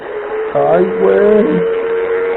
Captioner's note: exclaiming